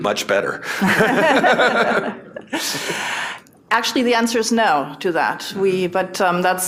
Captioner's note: laughter